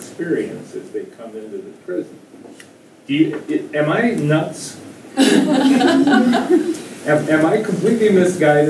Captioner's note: laughter